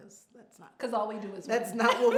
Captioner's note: laughs